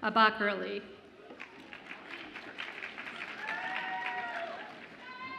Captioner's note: audience applauds and cheers